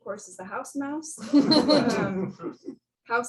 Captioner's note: laughter